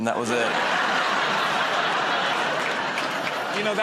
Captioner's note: laughter